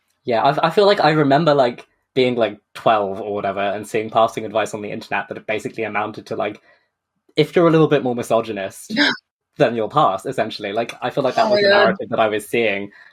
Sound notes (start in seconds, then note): 9.5 gasps